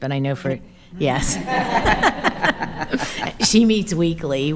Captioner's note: attendees laughing